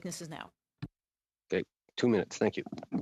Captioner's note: speaking in French